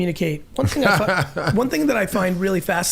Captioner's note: Mark laughing